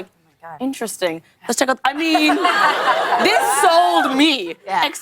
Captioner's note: laughter